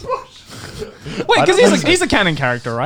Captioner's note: laughs